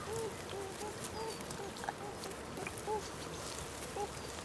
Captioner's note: rustling